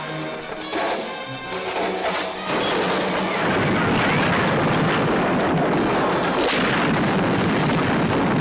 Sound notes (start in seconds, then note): 2.3 rocks crashing